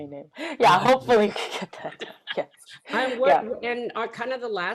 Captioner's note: laughing